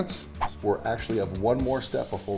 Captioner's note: swooshing